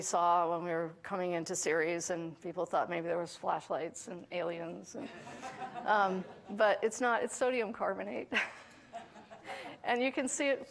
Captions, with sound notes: that we saw when we were coming into Ceres, and people thought maybe there was flashlights and aliens, and. [audience laughing] But it's not, it's sodium carbonate [laughing]. [audience laughing]